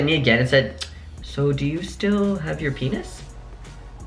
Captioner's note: tongue click